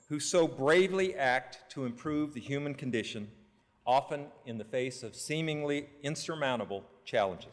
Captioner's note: none